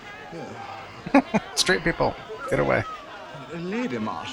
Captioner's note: chuckling